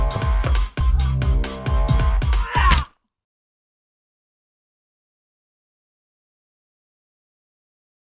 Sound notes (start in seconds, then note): 1.4 fist thuds; 2.4 creature grunts